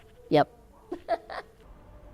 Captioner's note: laughing